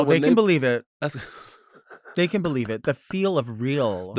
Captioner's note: laughing